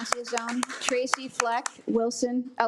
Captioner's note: attendees applaud